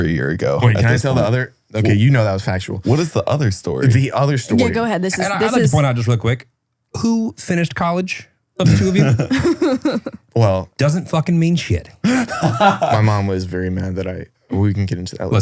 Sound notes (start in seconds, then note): 8.6 laughs; 12.0 laughing